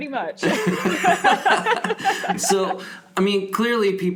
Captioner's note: both laughing